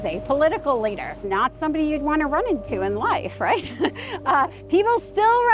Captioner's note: laughs